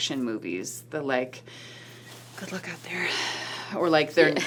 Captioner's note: sighs